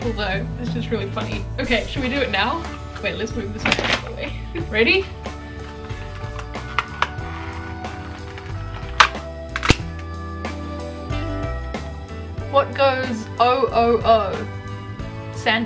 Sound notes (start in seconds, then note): 7.4 christmas cracker popping